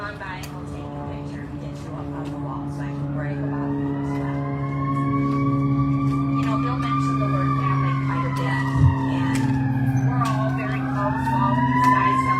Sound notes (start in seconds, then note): 4.7 very loud emergency siren blaring